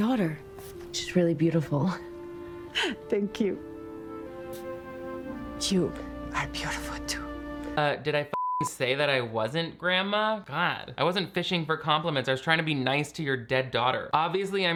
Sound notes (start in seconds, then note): 8.3 beep